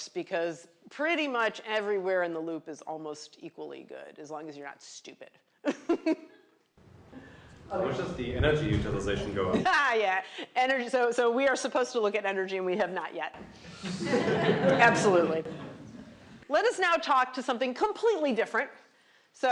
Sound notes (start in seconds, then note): 5.1 laughs; 10.6 laughs; 13.6 laughter